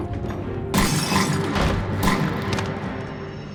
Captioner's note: gun firing